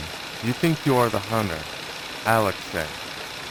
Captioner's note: sound of tape hiss